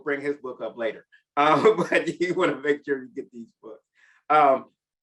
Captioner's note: chuckles